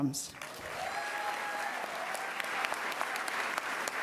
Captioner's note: cheers and applause